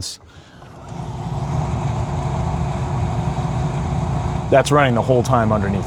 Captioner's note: ferry ambience playing